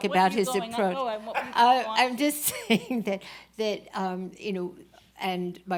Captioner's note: laughs